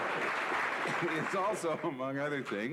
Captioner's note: laughter